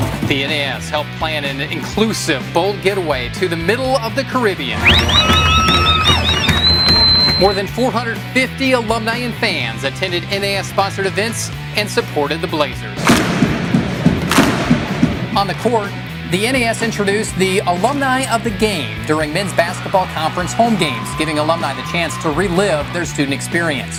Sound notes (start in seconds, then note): 4.7 fans cheering & whistling; 12.9 slow clap